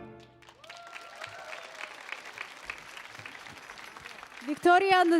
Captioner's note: audience applauding